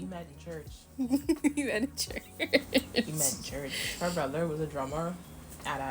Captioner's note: more Maniacal Laughter